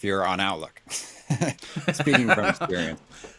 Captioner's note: both laughing